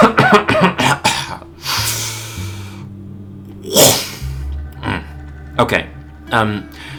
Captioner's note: cough cough cough